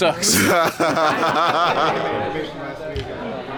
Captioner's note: laughs; group talking